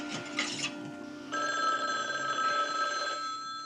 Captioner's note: phone ringing